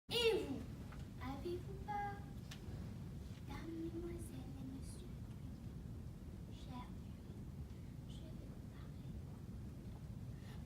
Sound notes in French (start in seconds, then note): 2.9 à voix basse